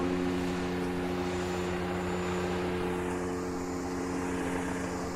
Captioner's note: motor whirring